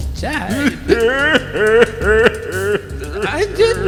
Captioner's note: sobbing